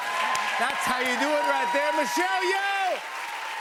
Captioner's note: cheers and applause